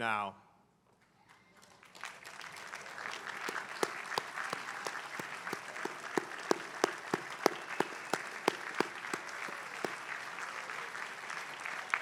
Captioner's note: applause